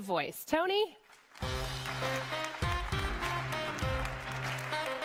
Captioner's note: audience applauding